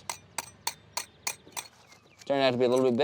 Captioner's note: metal tapping